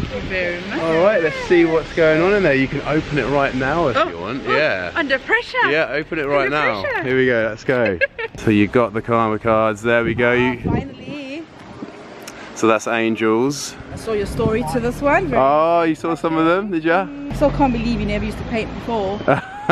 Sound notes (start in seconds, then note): 7.6 laughs